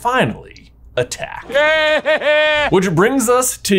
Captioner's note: Voldemort laughs